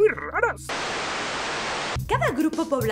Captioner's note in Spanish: estática